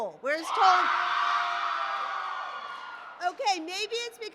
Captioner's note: applause